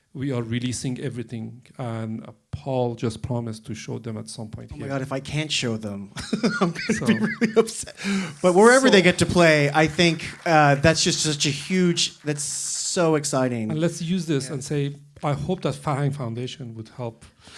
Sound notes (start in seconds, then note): 6.1 laughing; 8.0 applause